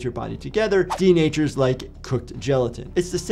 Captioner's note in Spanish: transición silbante